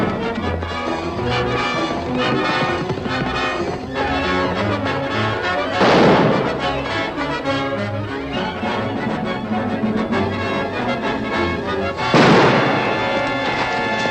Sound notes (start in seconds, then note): 7.2 action music; 12.1 gunshot